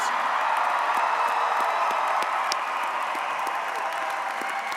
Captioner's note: audience cheers